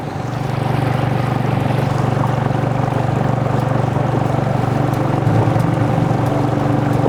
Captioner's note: motor running; soft music